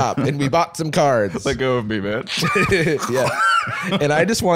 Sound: choking

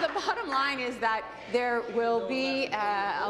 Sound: applause

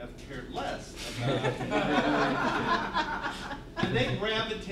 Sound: laughter

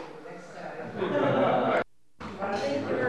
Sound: chatter

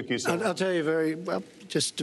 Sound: laughter

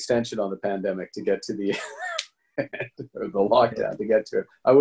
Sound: laughing

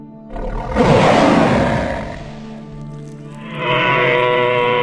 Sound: growling

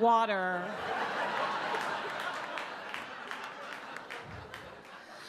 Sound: audience laugh

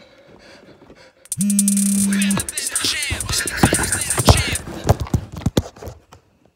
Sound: phone ringing and vibrating

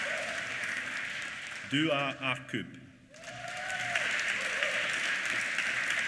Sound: applause

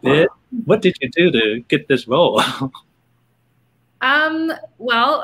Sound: laughing

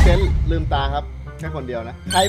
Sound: yells

